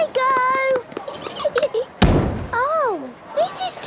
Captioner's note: giggling, thudding